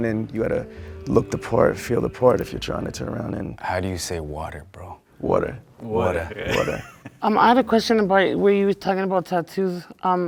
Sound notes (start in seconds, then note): 6.3 laughs